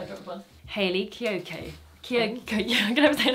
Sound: she stammers

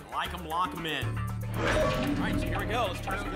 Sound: lock sound

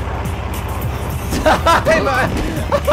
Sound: laughs

